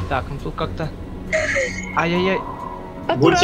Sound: laughs

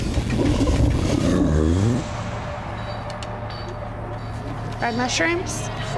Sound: belching

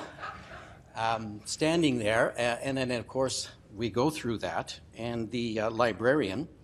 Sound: laughing

